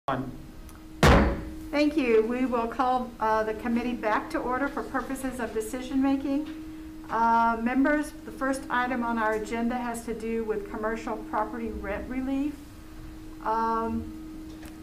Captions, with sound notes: (gavel thudding) Thank you. We will call the committee back to order for purposes of decision-making. Members, the first item on our agenda has to do with commercial property rent relief,